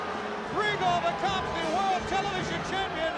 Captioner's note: crowd chatter